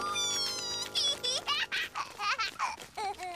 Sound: laughing

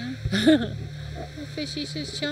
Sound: chuckles

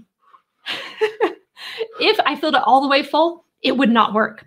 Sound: laughing

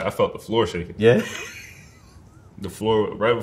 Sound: laughs

